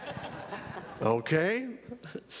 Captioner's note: laughter